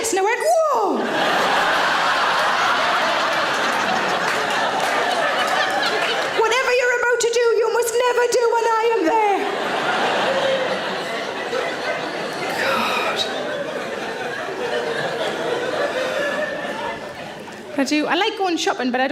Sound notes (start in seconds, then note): 0.9 audience laughs; 9.0 audience laughs